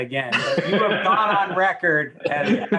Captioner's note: laughs